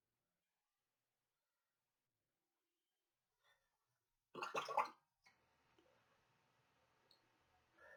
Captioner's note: silence